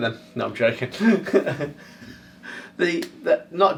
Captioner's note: laughing